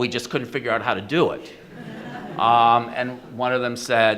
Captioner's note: audience laughs